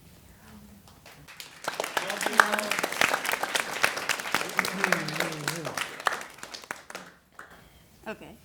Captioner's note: applause